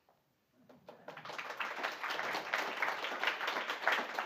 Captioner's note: applause